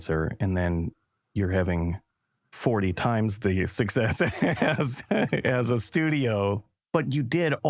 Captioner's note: laughter